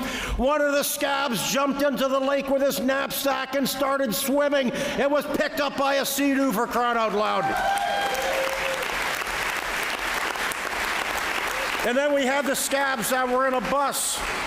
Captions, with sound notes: what are the scabs jumped into the lake with his knapsack and started swimming it was picked up by a seadoo for crying out loud [Applause] and then we have the scabs that were in a bus